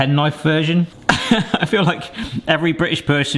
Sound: laughing

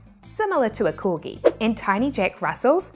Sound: graphics whooshing

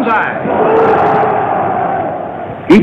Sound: crowd shouting

